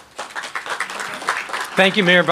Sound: applause

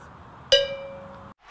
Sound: ding

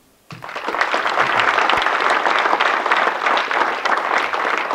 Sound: audience clapping

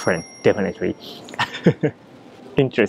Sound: laughs

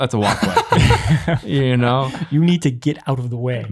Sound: laugh

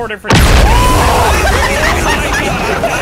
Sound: all yelling

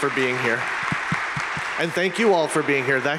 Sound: audience applauding

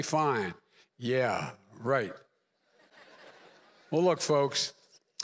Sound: laughter

